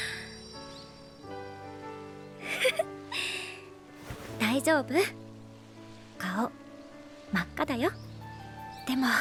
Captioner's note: chuckles